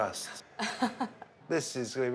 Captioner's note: April laughs